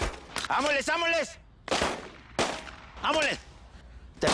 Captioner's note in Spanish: Disparos